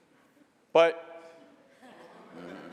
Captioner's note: laughter